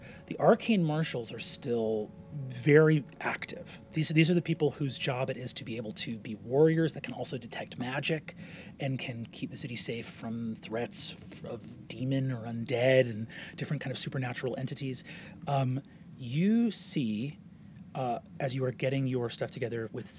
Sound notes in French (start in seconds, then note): none